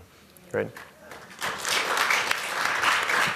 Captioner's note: applause